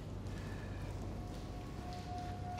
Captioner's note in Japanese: 息を吸う音